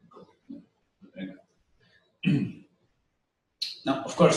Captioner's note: pause